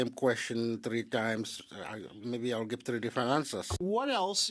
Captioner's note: speaking French